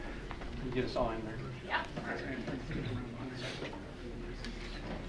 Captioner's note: mild chattering